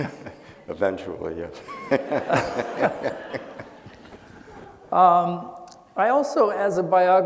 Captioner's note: laughing